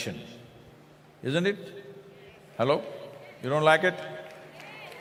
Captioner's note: cheering/Applause